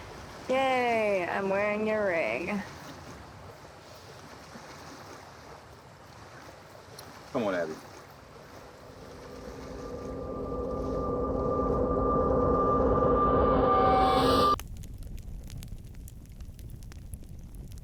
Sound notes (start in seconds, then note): 3.8 waves splash; 8.9 ominous music; 14.0 fire crackles